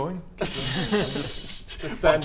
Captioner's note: teasing laughs